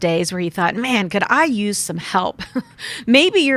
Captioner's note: laughs